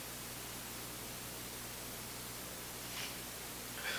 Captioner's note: sobbing